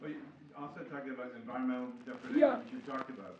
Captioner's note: faintly speaking